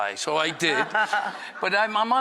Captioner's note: laughter